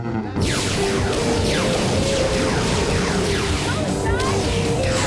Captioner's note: lasers firing